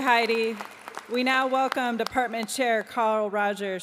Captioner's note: applause